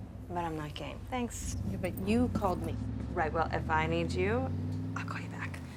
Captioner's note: none